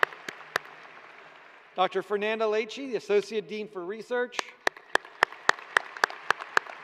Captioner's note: applause